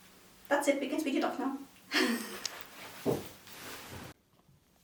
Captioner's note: laughs